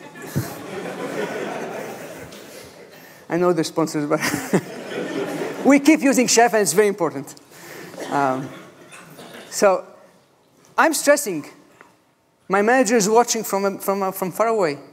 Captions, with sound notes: [laughter] I know the response but [chuckles] we keep using chef and it's very important. So I'm stressing. My manager is watching from far away.